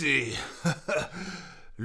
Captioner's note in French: Rire